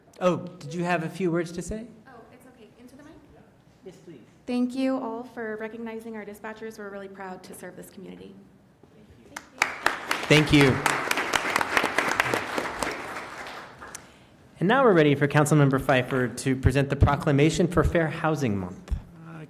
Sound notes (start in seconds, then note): 9.3 applause